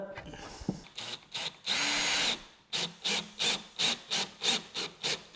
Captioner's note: drill buzzing